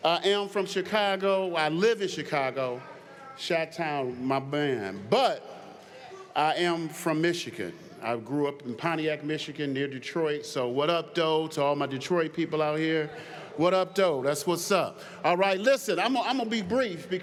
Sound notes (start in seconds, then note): none